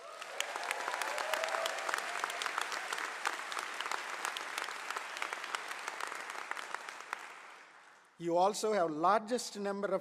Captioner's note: applause